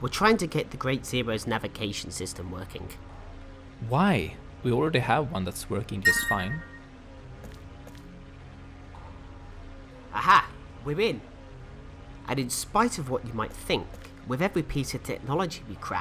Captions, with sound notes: We're trying to get the Great Zero's navigation system working. Why? We already have one that's working just fine. [Alert sound] Aha we're in! And in spite of what you might think with every piece of technology we crack